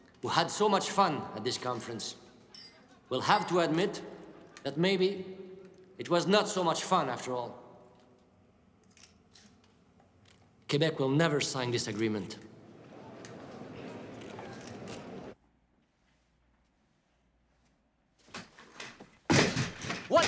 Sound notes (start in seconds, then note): 12.4 audience murmurs; 18.2 chair clatters and thuds